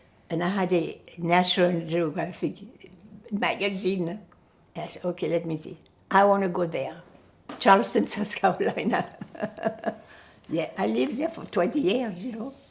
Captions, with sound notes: and I had a National Geographic magazine. I said, "Okay, let me see." "I want to go there". Charleston, South Carolina. [LAUGHING] Yeah, I lived there for 20 years, you know.